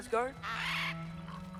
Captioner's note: caw